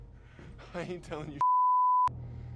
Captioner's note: beep